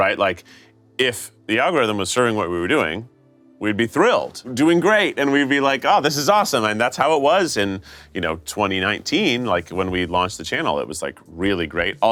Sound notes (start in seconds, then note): none